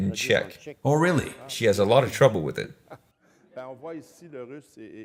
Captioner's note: laughs